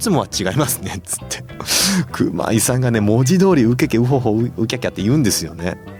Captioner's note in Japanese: 鼻息